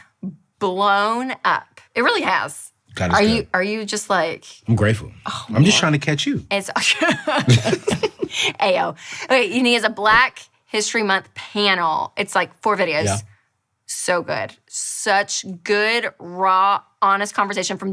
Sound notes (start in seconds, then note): 7.1 laughing